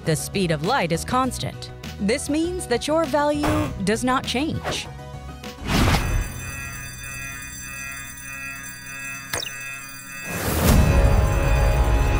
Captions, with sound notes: speed of light is constant. This means that your value does not change. [ALARM]